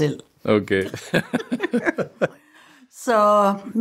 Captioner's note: laughs